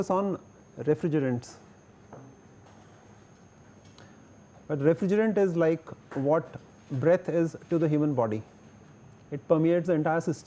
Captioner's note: breath